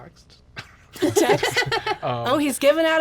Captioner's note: woman laughs